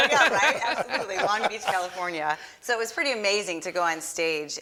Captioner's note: laughs